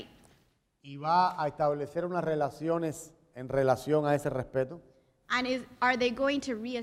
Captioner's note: speaking in Spanish